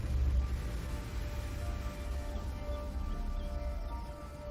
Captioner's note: leaves rustling; birds chirping; gentle music